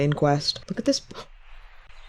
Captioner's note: gasps